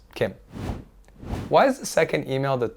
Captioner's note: frame whooshes